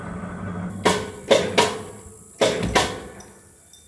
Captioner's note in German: Metallisches Klackern